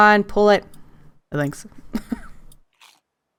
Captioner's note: laughs